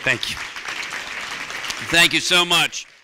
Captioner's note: applause